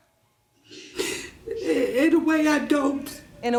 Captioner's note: sniffles